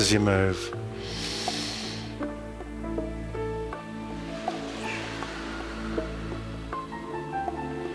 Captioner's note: exhale